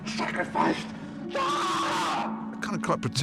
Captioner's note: screams